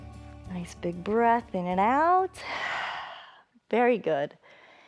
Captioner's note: exhales